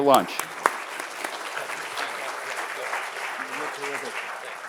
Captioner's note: audience applauding